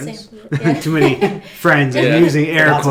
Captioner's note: laughing